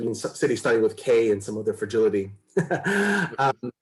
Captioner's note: chuckles